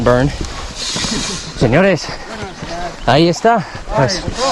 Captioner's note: speaking Spanish